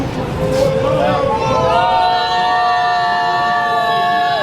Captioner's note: audience boos